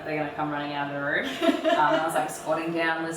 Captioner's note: laughs